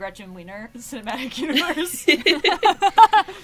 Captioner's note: laughs